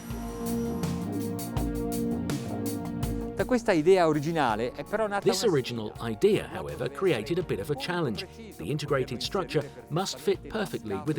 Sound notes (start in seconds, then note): 0.2 upbeat music; 3.5 speaks Italian